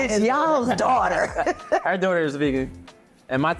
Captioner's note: laughing